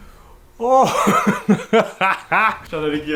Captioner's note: laughs